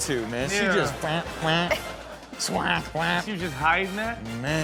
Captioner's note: mimics duck quack